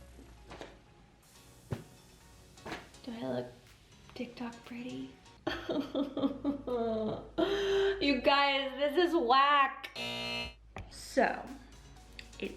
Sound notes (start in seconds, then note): 5.5 sobbing